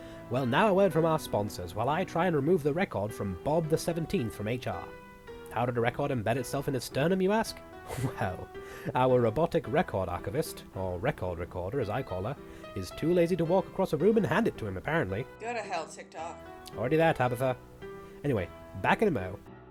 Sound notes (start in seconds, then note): 15.7 off-mic